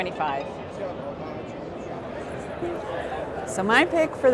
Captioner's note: crowd talking